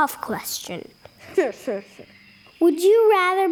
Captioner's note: sinister laugh